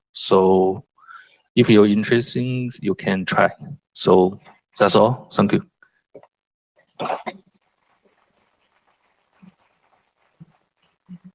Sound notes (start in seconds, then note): 7.7 applause